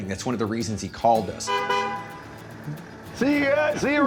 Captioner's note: car horn honks